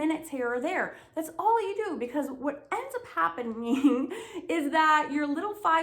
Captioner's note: laughs